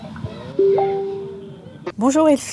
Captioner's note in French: alarme notification email